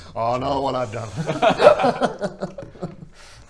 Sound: sus giggles

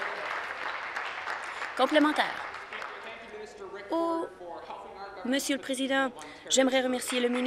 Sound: applause

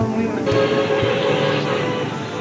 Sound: street noise

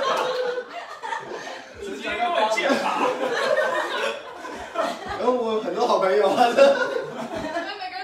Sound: everyone laughs; everyone laughing

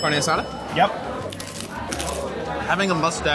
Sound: bell dings; crunching

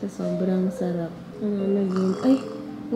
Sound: snore

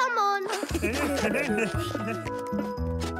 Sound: laughter

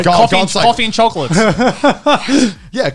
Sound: laughing

